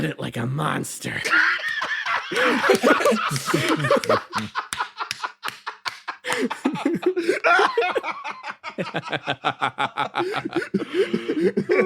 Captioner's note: coyote laughter